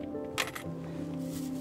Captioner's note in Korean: 동전 넣는 소리